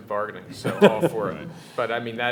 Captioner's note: laughing